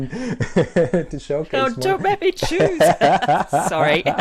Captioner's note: laughs